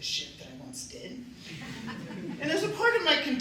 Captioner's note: laughter